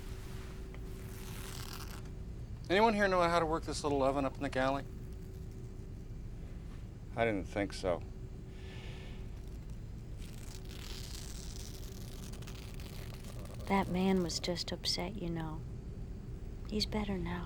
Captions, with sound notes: ANYONE HERE KNOW HOW TO WORK THIS LITTLE OVEN UP IN THE GALLEY ? I DIDN'T THINK SO. [ Tearing Continues ] [ Moaning ] THAT MAN WAS JUST UPSET, YOU KNOW. HE'S BETTER NOW.